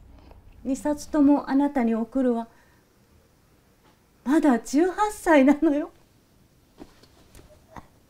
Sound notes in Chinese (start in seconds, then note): 0.7 妈妈讲日语